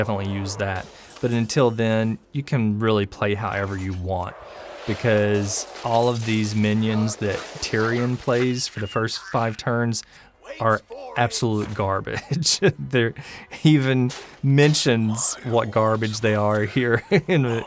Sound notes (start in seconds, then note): 12.0 haha